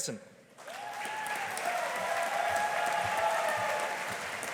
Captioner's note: audience applauding